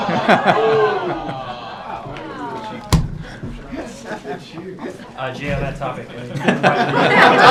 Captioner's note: laughter; laughter